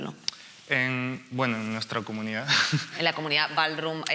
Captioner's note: laughs